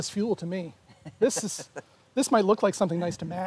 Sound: chuckles

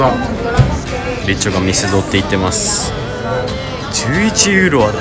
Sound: members were talking to each other

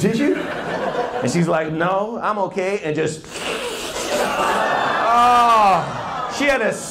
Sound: slurrrp

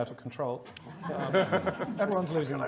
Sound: audience laughing

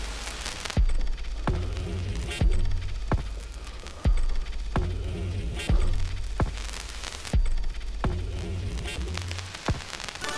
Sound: a distorted kick drum and high-pitched electrical static

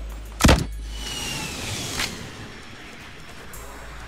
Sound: RPG firing

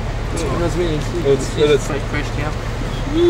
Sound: mumbled conversation

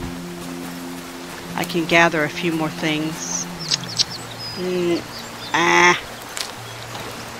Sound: clicks tongue

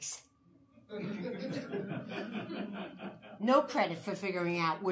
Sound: audience laughing

